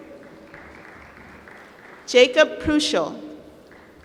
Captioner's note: applause